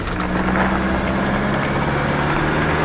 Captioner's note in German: Motorgeräusch